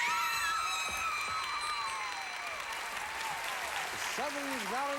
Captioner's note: audience applauding